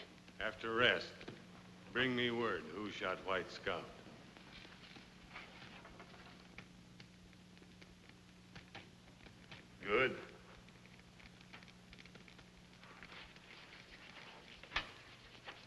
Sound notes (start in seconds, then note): none